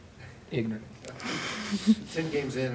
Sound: laughter

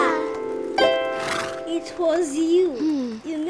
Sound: horse snorting

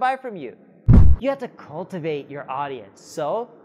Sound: whooshing

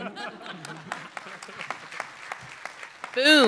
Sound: laughter

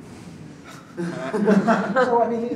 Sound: laughter

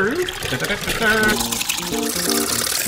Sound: bouncy music; imitates fanfare

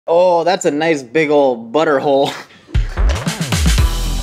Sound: giggles softly; upbeat music

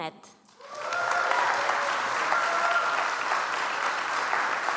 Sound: audience applauds

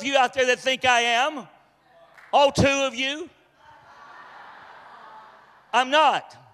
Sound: congregation laughs

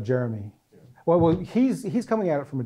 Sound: voiceover

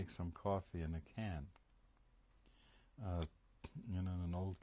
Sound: pauses for 3 seconds

